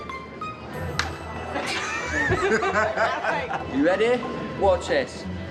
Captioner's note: laughing